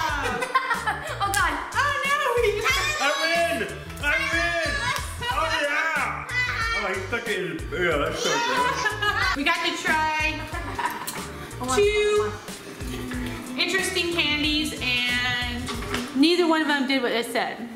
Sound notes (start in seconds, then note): 8.1 laughs